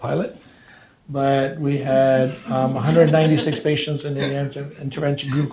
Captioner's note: audience laughs